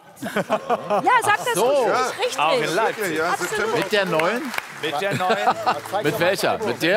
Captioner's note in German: Applaus